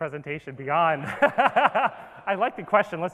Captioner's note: laughs